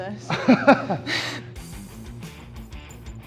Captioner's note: Sheamus chuckles; upbeat music